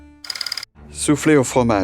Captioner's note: slide rolling